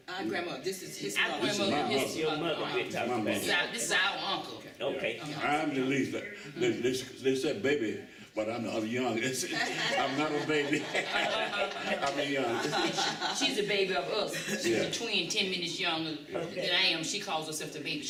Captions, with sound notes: Our grandma. This is his mother. Our grandmother, his mother. This is my mother. This is your mother we’re talkin’ about. Okay. This is our uncle. Okay. I’m the least—they said baby, but I’m the youngest. [Laughter.] I’m not a baby. I’m the youngest. She’s the baby of us. She’s a twin, ten minutes younger than I am. She calls herself the baby.